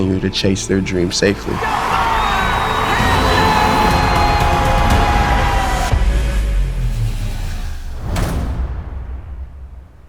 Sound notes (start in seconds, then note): 1.4 crowd cheering